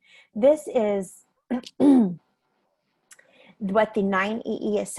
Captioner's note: clearing throat